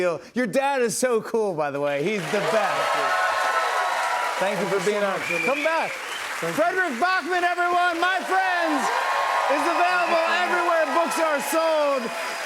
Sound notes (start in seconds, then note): 2.7 cheers and applause